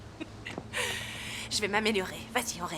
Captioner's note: sighs